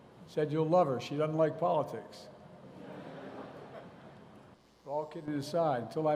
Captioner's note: laughter